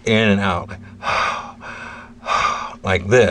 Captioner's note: breathing sound